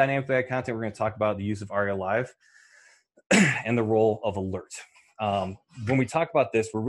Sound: coughs

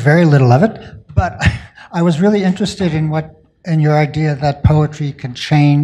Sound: chuckles

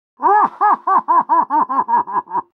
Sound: muffled laughter

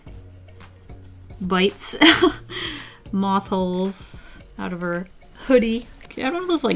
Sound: laughs

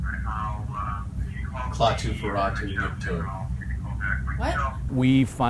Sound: speaking foreign language

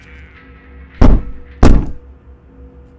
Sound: knock, knock

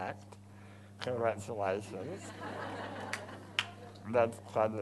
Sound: crowd laughs

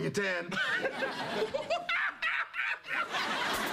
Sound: hoots

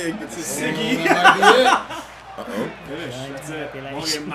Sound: laugh

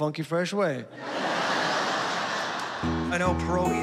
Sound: laughter

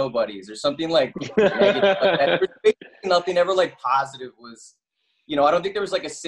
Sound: laughing

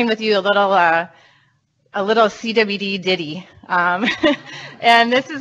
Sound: laughs

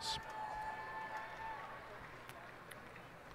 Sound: cheers and applause

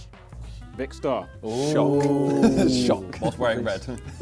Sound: both booing

